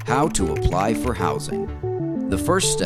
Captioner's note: applause